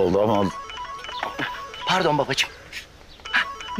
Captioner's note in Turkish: Telefon zili sesi